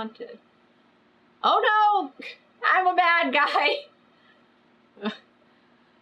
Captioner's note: laughs